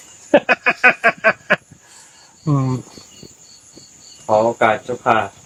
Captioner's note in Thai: เสียงหัวเราะ